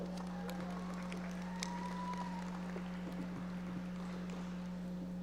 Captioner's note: audience applauding